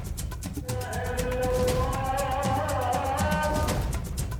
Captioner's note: man chanting over loudspeaker